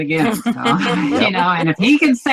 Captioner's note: laughs